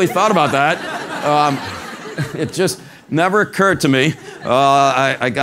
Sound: laugh

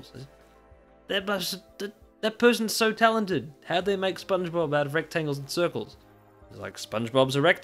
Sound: slurred

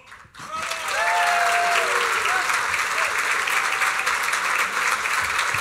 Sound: applause

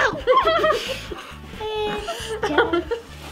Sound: gags; laughs

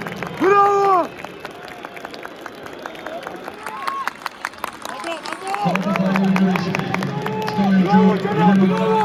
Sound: applause

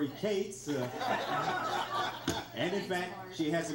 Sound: crowd laughs

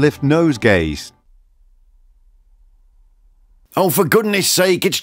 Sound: silence

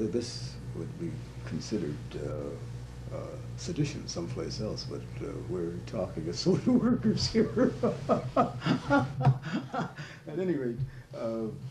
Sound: laughter

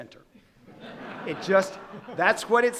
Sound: audience laughing

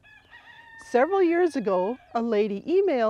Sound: rooster crowing

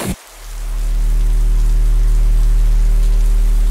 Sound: electrical buzzing and zapping; electrical hum

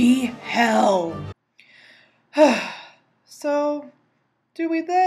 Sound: deep sigh of science

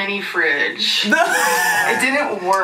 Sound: laughs wheezily

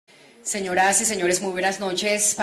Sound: in Spanish, via interpretation

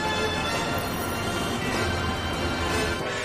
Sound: cars honking

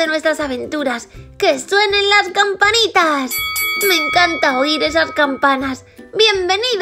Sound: bell Rings

